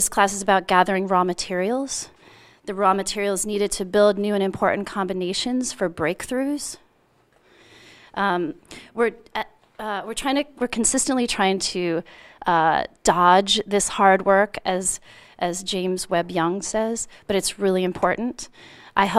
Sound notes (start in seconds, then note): none